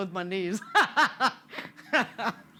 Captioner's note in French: Rires